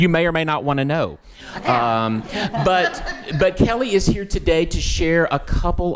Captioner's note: attendees laughing